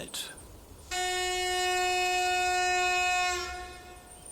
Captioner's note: horn